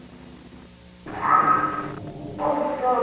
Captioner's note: screeching